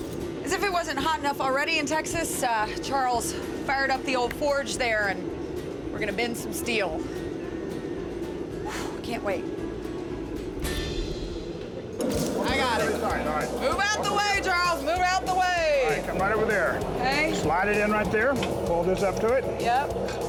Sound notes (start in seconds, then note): 10.3 furnace roaring